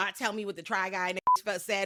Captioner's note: beep